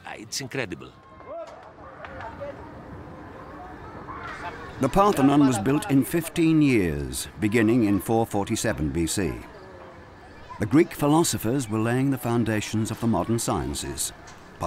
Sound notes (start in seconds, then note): 1.9 workers chattering